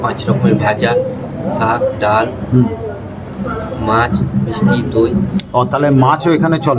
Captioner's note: pulses